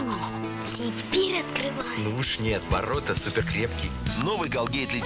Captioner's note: knock